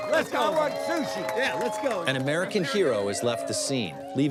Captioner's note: laughing